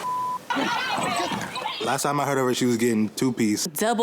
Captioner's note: all yelling